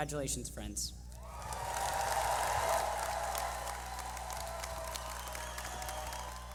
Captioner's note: cheering